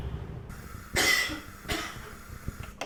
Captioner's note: coughing